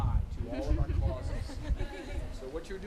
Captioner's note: students chuckling